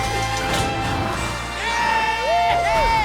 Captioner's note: cheering